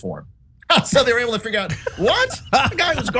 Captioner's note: laugh